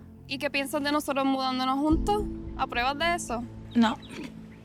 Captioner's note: speaks Spanish